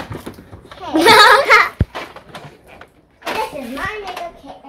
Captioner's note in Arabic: أطفال يضحكون